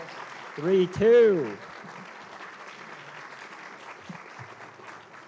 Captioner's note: applause